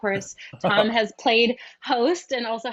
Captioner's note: chuckles